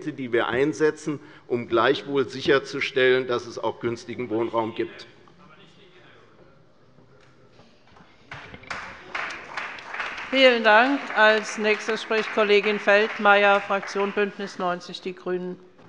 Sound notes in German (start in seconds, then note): 8.3 Beifall bei der CDU